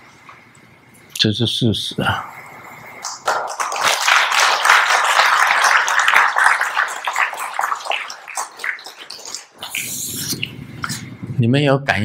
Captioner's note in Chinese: 眾鼓掌